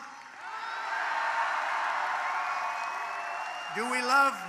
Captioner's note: applause